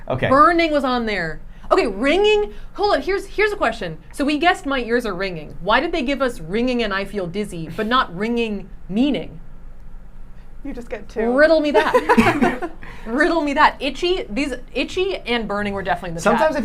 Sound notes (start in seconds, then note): 11.7 laughing